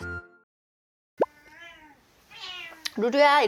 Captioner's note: meow